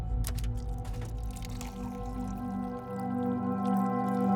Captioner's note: water splashing